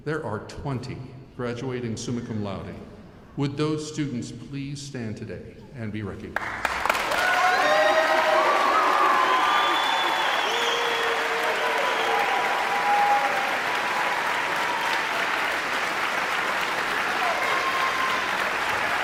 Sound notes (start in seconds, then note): 8.5 audience member whistles